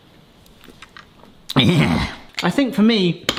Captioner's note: wincing grunt